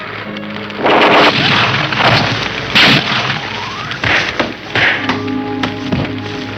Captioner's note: gunshots blasting; thudding